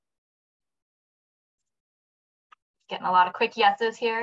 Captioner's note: silence